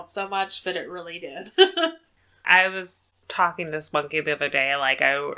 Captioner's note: laughs